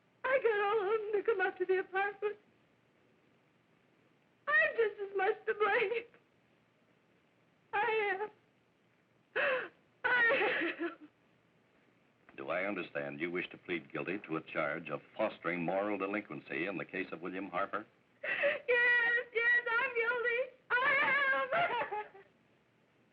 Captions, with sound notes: I got all of them to come up to the apartment. I'm just as much to blame. (sobbing) I am. I am. (crying) - Do I understand you wish to plead guilty to a charge of fostering moral delinquency in the case of William Harper? - Yes, yes, I'm guilty, I am. (crying)